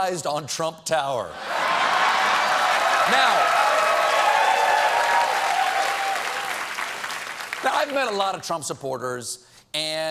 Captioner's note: cheers and applause